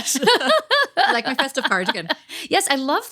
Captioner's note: laughing